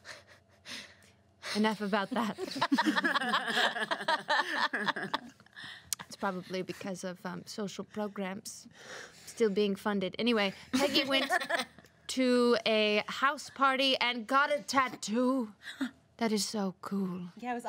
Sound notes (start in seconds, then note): 2.2 girls laugh